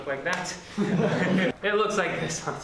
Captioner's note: laughter